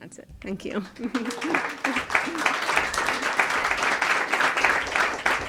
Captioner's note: audience applause